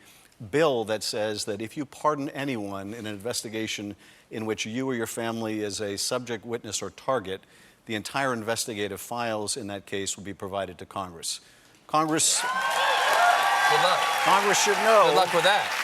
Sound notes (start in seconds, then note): 12.1 cheers and applause